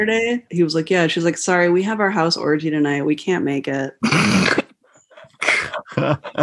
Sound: laughter

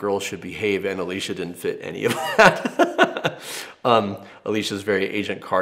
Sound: laughs

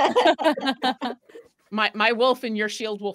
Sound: group laughs

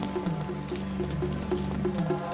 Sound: footsteps

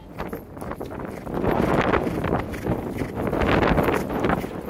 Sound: wind and horse snorting

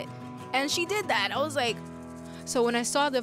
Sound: gasps

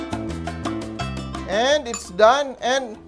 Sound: clang

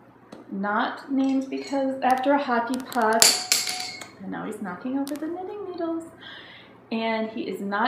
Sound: clattering sound

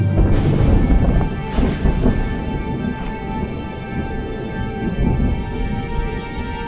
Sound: lightning cracking; thunder rumbling

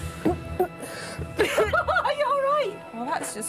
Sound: gagging

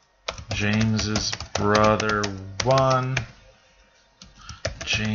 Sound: typing

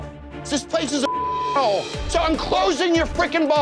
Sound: beeping

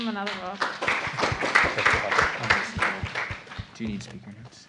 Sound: applause

